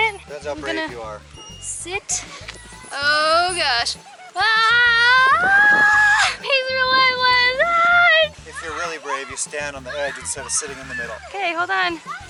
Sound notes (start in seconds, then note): 4.4 screaming